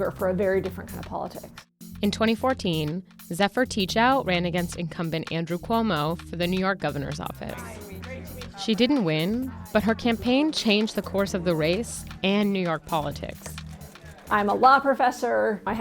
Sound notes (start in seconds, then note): 7.5 crowd chatters; 13.3 claps hands